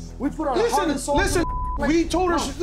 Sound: beep

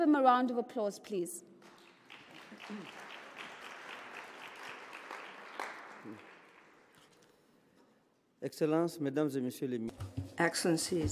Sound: applause

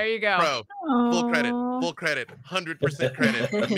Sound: awing

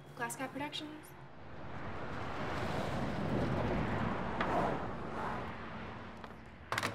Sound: traffic sounds

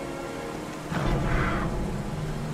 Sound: low growl

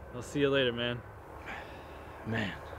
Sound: breathes out

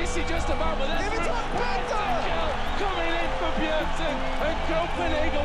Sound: crowd cheering

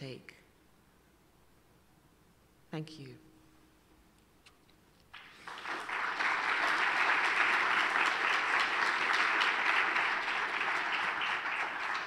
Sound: applause

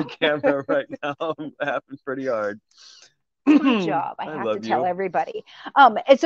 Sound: laughing

